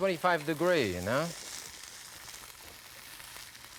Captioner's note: sizzling